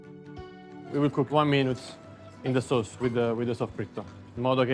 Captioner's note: speaking Italian